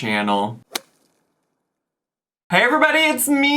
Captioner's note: logo thuds